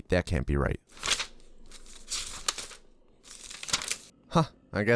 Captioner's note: sound of pages turning